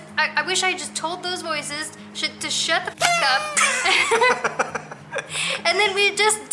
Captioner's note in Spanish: Risas